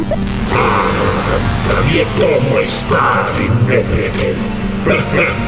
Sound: Robotic voice

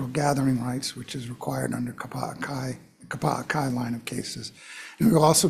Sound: speaking Hawaiian

